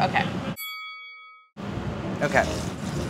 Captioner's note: bell dings